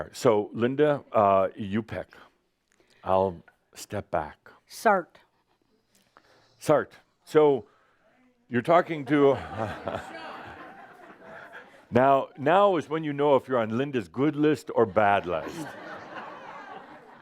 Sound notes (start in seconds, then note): 9.0 laughter; 15.2 more laughter